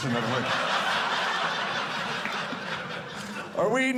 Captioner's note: audience laughing